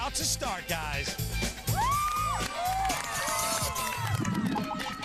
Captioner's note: all cheer